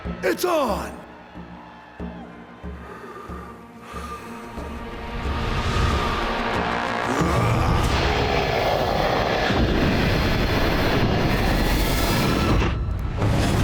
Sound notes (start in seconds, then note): 2.7 heavy breathing; 7.0 grunting